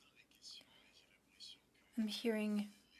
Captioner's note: speaking French